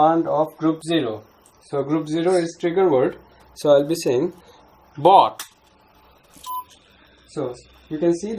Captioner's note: robot beeps